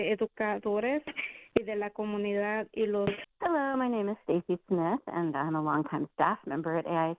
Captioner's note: speaking spanish